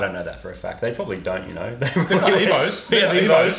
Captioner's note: laughs